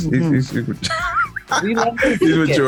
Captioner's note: laughs